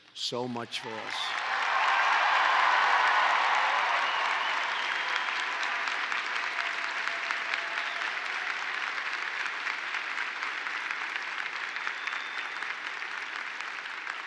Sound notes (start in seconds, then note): 2.7 applause